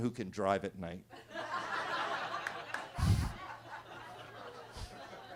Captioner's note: attendees laughing